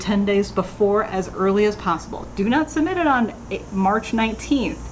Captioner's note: none